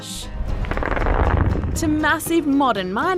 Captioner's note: explosion